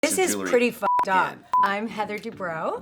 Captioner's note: beep